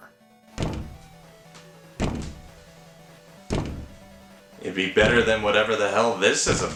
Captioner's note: there’s a constant knocking on the door